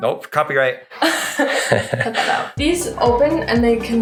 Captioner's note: both laughing